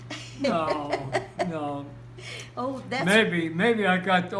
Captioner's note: laughs